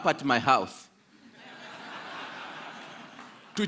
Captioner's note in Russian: Смех